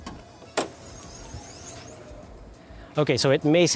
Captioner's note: hood opens